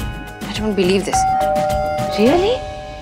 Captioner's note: Door bell